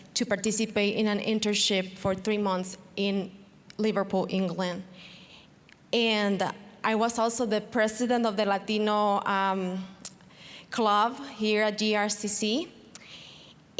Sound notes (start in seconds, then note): none